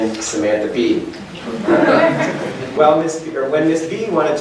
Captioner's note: chuckling